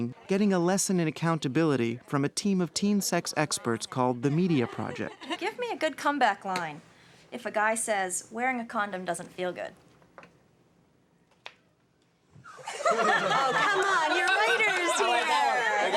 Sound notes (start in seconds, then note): 12.4 laughter